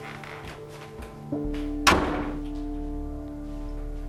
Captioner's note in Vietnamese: đóng sầm cửa lại